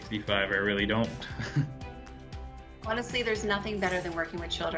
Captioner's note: laughs